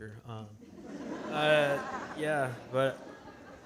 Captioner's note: audience laughing